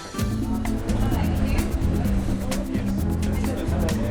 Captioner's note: gentle music; people chattering